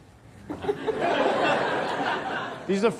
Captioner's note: audience laughs